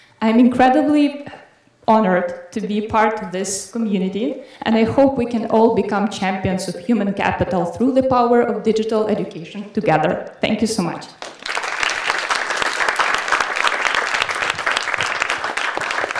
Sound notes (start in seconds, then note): 11.2 audience applauding